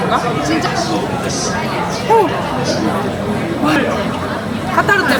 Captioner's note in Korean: ㅋㅋ